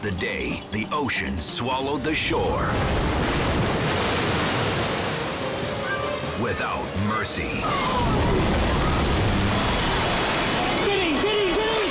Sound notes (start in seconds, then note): 2.8 wave booms; 7.6 wave booms